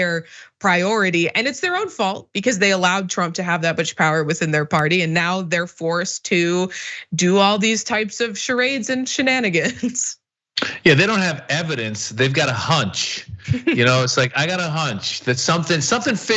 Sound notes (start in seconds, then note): 10.6 laugh